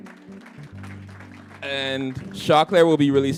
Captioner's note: applause